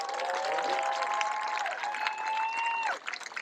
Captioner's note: cheering, applause